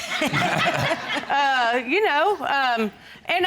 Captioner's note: audience laughing